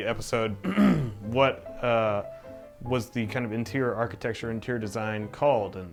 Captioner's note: clears throat